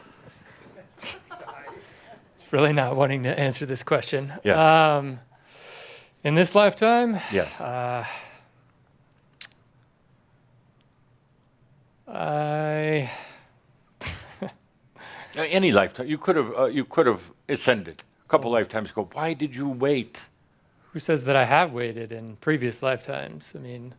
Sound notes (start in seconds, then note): 14.0 chuckles